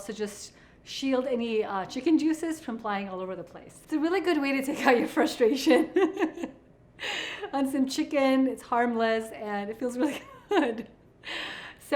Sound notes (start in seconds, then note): 5.8 chuckles